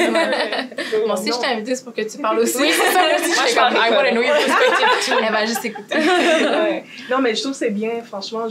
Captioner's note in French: rires